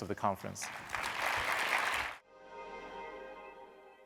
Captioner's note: audience applauding